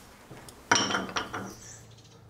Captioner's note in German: Leises Klappern